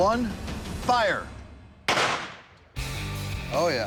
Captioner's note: gunshot